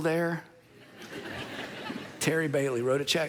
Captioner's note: congregation laughing